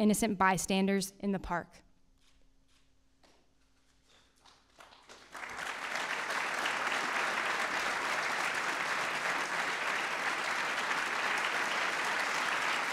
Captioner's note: applause